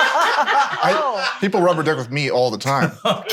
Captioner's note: laughing